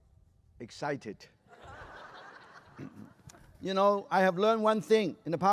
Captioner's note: laughter